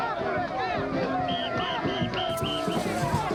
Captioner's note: crowd chanting